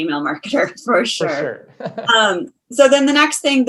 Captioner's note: laughs